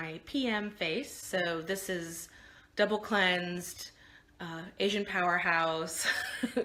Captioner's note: laughing